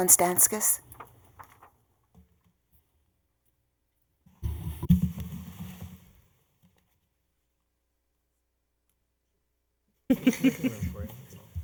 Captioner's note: laughter